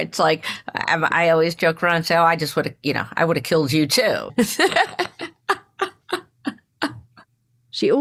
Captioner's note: laughs